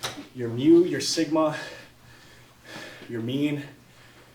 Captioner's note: heavily breathing